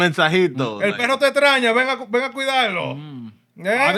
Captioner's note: speaking Spanish